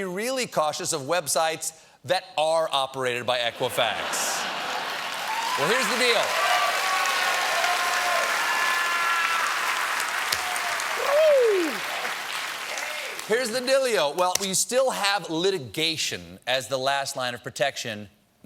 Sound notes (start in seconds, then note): 3.6 laughter; 4.6 cheers and applause